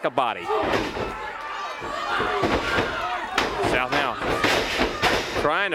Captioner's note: crowd cheering